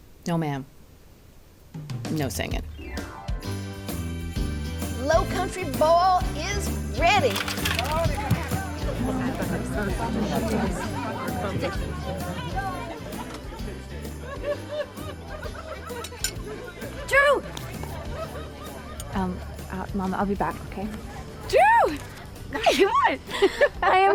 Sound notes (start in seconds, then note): 7.4 vegetables thud on table; 8.9 people chattering